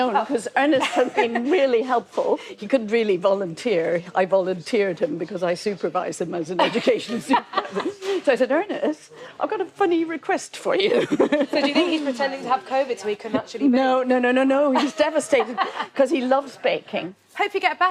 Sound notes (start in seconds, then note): 14.7 laughs